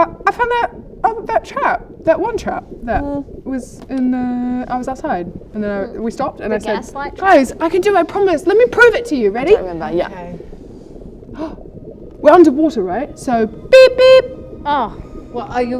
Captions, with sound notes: I found that trap, that one trap that was outside and then we stopped and I said - The gaslight Guys, I can do it I promise - trap? let me prove it to you! Ready? I don't remember yup - Okay *gasp* We're underwater, right? So beep beep. Beep beep! Ah, what are you?